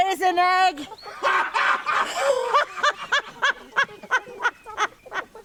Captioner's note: both loudly laughing